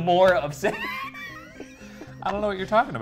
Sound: laughs

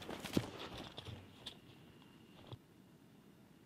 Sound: quiet hissing

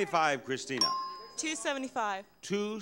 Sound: bell dings

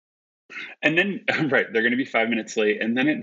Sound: both laugh

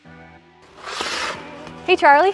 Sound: blades dragging on ice

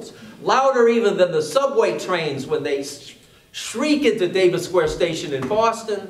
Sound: yells

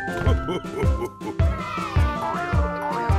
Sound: laughs

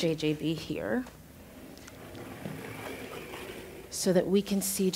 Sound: chair rolling

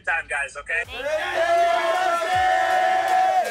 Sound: cheers

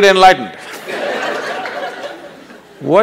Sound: laughter

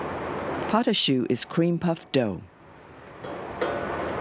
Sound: voiceover

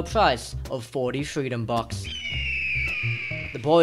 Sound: eagle's cry

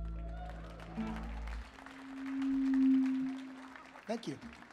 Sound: audience applauding

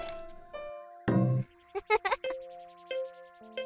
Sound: background giggle

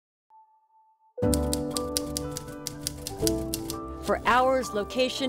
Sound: typewriter clanking

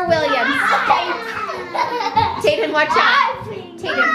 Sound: laughter and yelling

